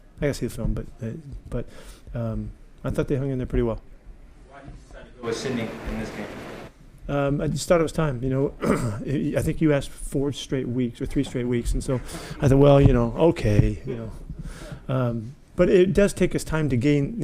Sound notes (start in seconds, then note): 11.9 audience chuckling; 15.0 chuckling